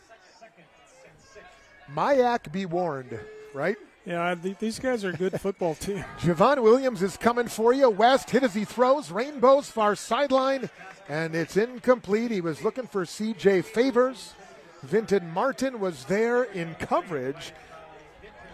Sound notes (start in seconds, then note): 5.0 laughter